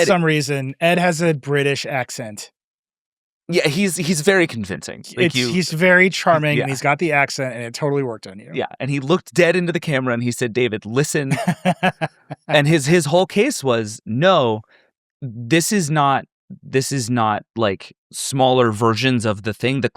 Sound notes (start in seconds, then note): 11.3 laughs